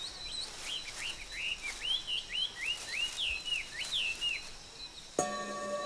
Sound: leaves rustling; birds tweeting

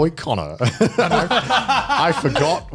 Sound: laughs

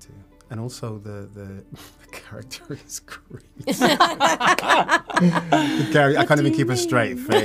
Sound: laughter

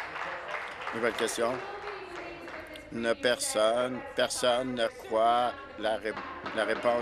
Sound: applause

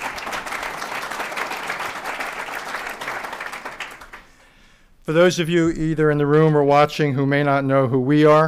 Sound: applause

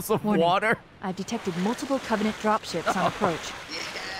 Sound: laughs

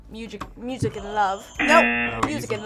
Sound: buzzer

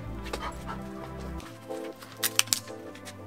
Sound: dog Panting

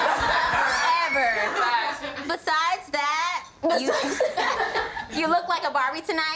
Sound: group laughs; laughs

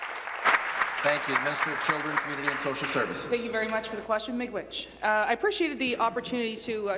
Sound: applause

